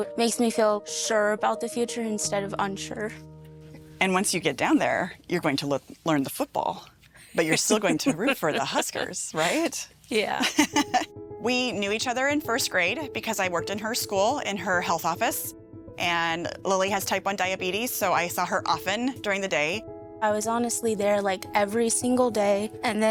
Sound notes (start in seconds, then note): 7.3 laughing; 10.3 laughing